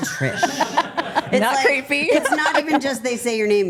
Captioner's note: group laughing